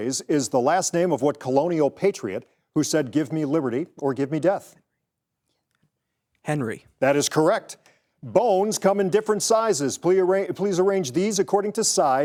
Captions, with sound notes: is the last name of what colonial patriot who said give me liberty or give me death? (participants whispering) - Henry. - That is correct. Bones come in different sizes. Please arrange these according to size